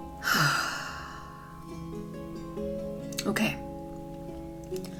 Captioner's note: sighs